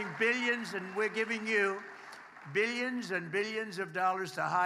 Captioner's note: applause